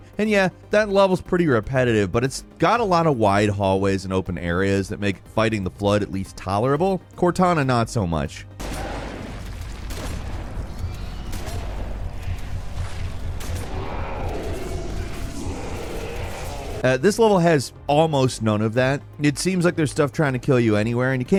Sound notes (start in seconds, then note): 8.6 weapon firing; 13.5 monster roaring